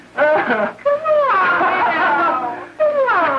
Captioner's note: laughing